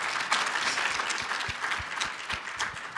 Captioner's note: applause